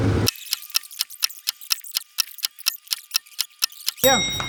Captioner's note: clock ticking